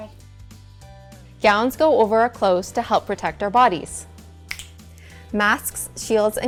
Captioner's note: finger snap